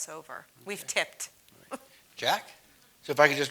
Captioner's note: laugh